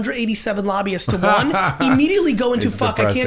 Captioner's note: Mark laughing